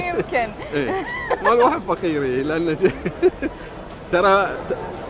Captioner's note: laughing